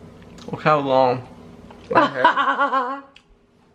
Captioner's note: laughs